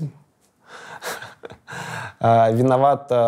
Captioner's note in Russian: смеется